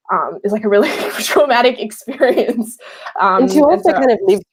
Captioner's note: laughing